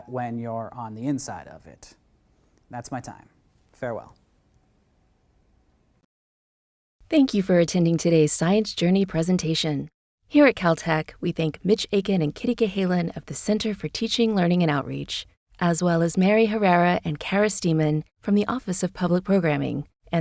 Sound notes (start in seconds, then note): 7.2 voiceover